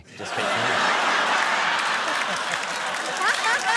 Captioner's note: laughter